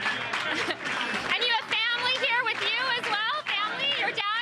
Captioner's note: applause